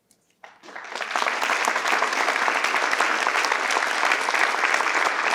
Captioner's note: participants clap